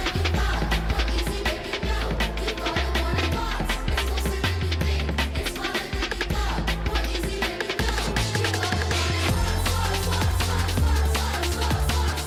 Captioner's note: cheering and applause